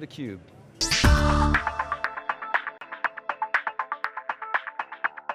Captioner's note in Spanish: tintineo electrónico